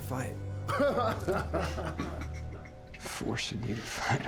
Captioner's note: laughing